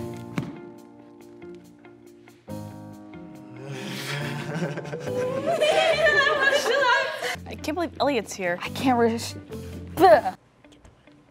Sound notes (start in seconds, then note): 4.0 then everyone slowly starts giggling